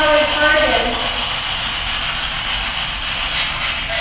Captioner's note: static buzzing